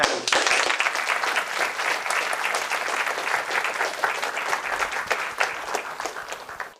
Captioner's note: applause